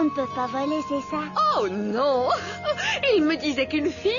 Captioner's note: laugh